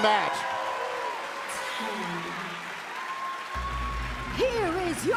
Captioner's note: bell ringing